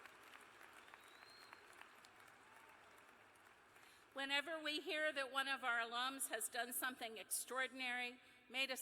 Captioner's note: cheers and applause